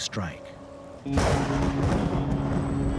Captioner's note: thunder claps